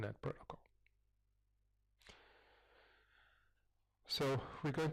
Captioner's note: pause